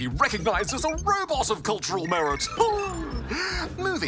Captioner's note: chuckles